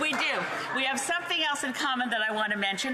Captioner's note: laughter